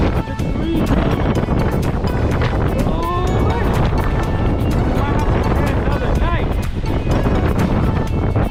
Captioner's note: wind noises and indiscriminate words